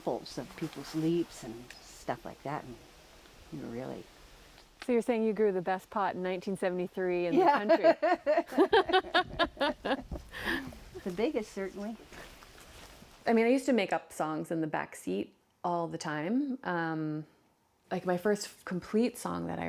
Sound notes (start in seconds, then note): 7.3 laughter